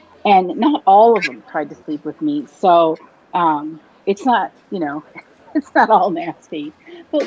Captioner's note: laughs